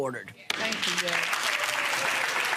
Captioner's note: audience applause